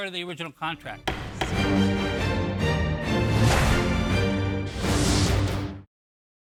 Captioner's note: upbeat music; gavel pounds